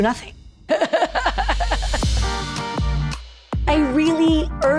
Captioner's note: laughs